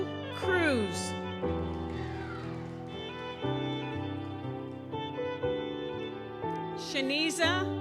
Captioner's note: gentle music continues; audience applauds